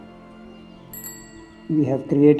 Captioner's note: cycle bell rings